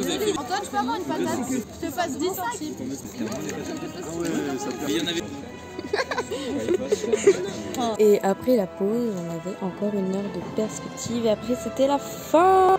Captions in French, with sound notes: "Antoine j'peux avoir une patate ? "J'te passe 10 centimes." *rires* Et après la pause on avait encore une heure de perspective et après c'était la fin !!